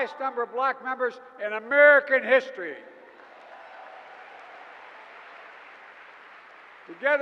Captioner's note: applause